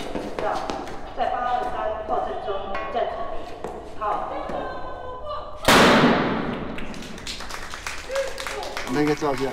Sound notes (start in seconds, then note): 5.6 gunshot; 6.7 applause